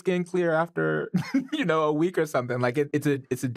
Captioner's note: chuckles